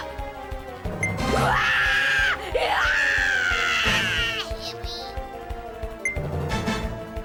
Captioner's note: various screaming